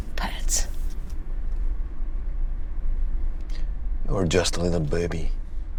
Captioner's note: car engine revving